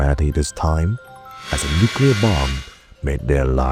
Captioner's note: A nuke whizzes past the screen, making a propulsion noise